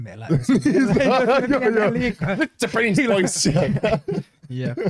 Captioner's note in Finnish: nauraa